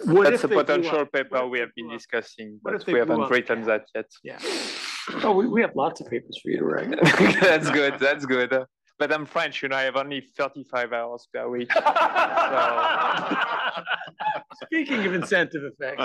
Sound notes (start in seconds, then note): 6.9 laugh; 11.6 laugh